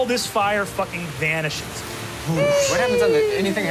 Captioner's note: whoosh